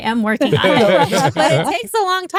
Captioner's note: all Laughing